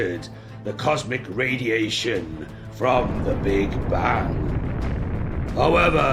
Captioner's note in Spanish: Sonidos de explosión